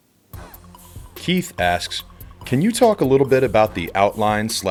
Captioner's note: voiceover